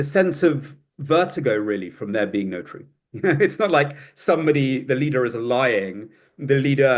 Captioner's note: laughs